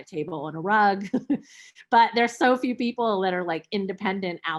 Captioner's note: chuckles